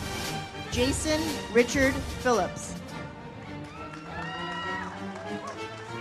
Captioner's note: audience applauds; uplifting music